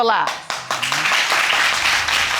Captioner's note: audience applauding